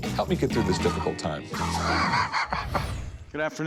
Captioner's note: laughs